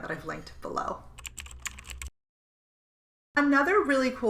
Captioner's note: keystrokes clacking